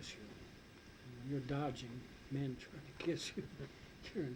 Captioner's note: chuckles